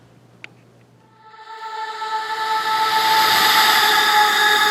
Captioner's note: digital echoing